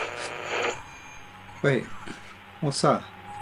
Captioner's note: radio crackling; static buzzing